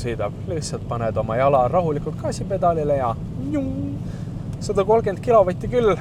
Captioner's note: phew